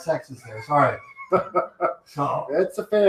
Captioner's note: laughs